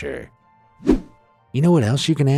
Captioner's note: image whooshing